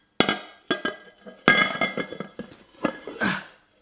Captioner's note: plate clatters